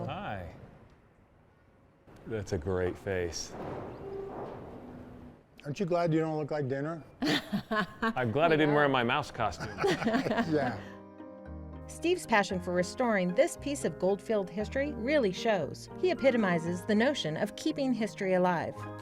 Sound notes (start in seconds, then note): 7.2 laughing; 9.3 all laughing